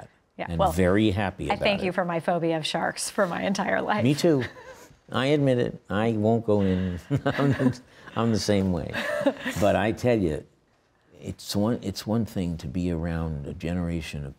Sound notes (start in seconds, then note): 6.6 chuckles; 8.8 Hoover laughing